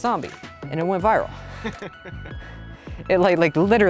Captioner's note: laughing